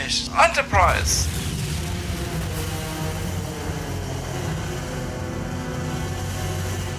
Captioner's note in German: Explosion; Dramatische Musik